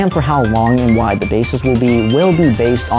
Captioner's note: riser